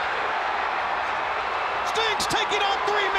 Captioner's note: crowd cheering